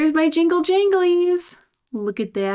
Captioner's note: jingles softly